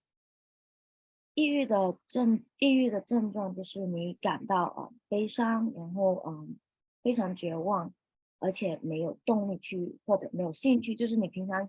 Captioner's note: speaking chinese